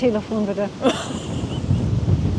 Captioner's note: laughs